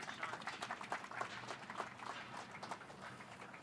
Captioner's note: applause